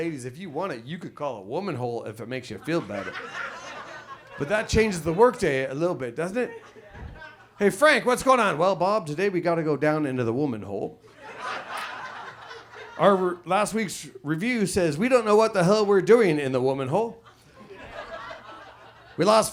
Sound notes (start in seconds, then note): 2.5 audience laughs; 11.1 audience laughs